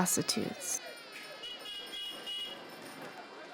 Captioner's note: vehicle horn honking